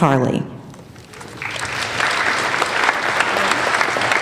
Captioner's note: applauding